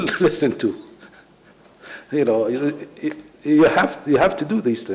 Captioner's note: laughs